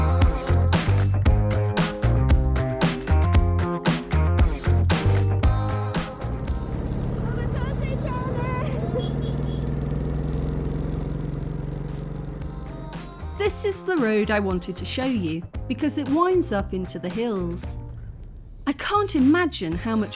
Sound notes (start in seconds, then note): 0.0 upbeat music; 8.6 moto beeps